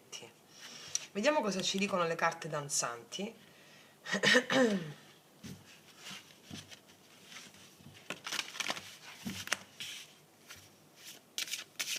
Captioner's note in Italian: schiarire la voce